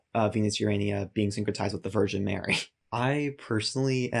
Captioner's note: chuckles